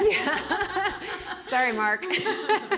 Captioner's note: laughing